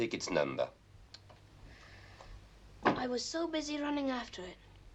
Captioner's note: sighing